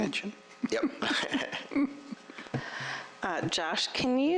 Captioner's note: laughter